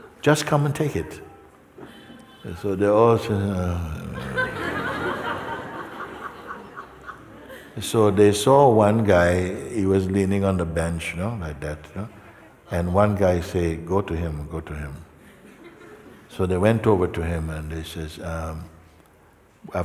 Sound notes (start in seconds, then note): 7.0 Lachen